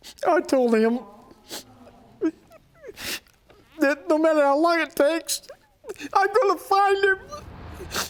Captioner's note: sobbing